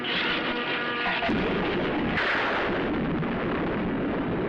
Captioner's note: thunder